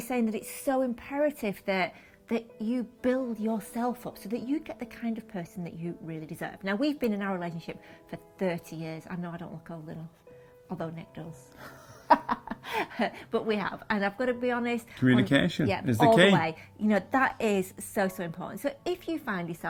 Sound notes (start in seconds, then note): 11.6 laughter